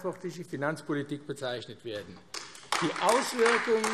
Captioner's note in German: Beifall AfD